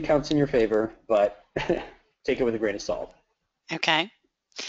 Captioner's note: laughs